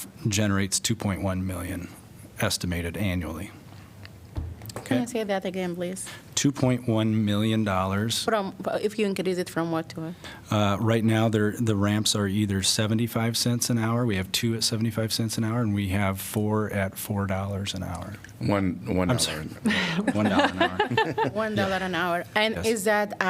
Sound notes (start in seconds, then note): 19.6 laughter